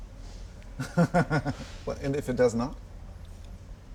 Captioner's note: laughs